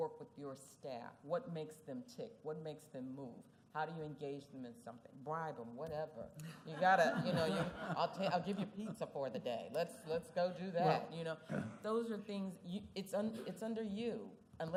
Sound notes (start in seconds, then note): 6.4 laughter